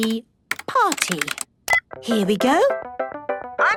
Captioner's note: beep